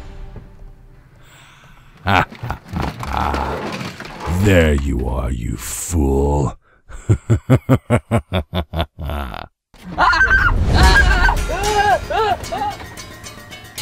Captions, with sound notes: (Thanos laughing) There you are, you fool. (Thanos laughing) (Captain America yelling)